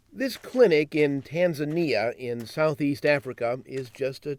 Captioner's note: voiceover